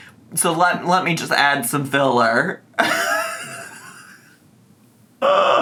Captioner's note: laughs